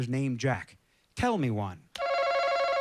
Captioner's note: chime